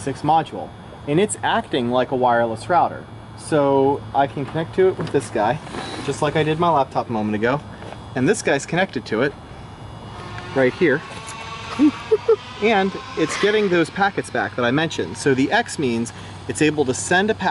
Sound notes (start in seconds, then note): 9.7 boop boop boop